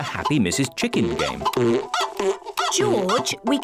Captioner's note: chicken clucking